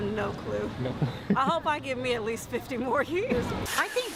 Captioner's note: laughing